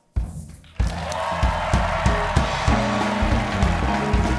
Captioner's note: cheers and applause